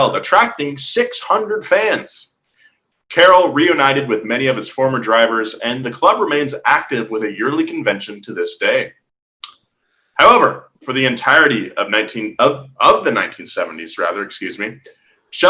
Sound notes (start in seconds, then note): none